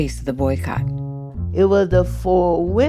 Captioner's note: soundbite of archived recording